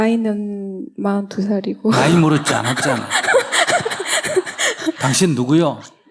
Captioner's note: questioner/Audience Laughter